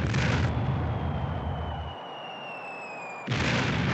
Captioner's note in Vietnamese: Tiếng bom rơi